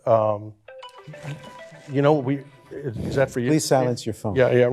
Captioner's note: ringtone playing